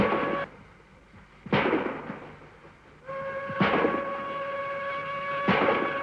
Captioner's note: train horn